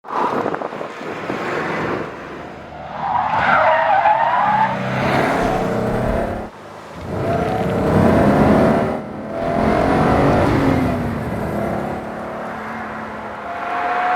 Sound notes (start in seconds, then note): 0.0 tyre squeal; 2.6 loud squeal of tyres; 4.5 engine grows in rpm; 12.2 car in the distance